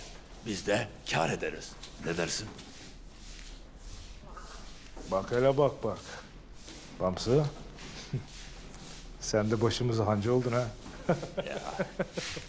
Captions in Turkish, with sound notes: Biz de kâr ederiz, ne dersin? (Süpürge sesi) Bak hele, bak bak! Bamsı! Sen de başımıza hancı oldun ha. (Gülme sesi) Ya!